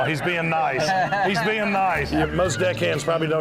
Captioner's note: laughing